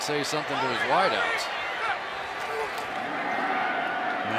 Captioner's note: cheering